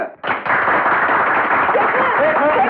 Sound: crowd Applauding

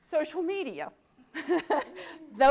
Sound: laughter

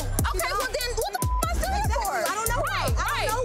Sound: beep

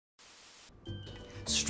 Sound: static; upbeat music

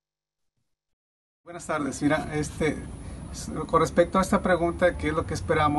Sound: speaking Spanish

